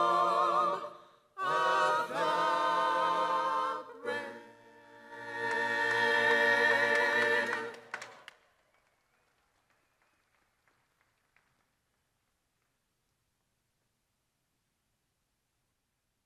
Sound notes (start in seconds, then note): 4.8 crowd applauding